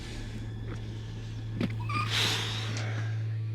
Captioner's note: squeaking